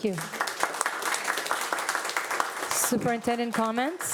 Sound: audience applauding

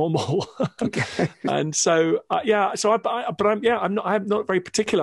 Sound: both laugh

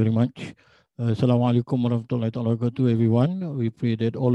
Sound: speaking arabic

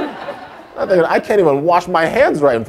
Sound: audience laughter

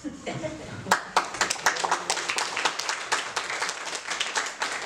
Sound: clapping

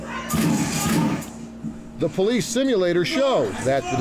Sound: shots firing

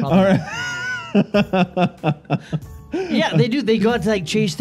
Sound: laughing

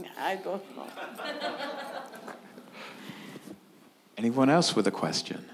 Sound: audience laughing

